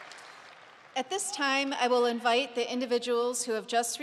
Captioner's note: applause